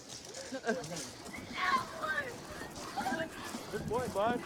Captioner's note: yelling